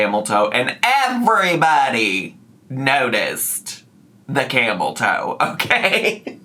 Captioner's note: laughs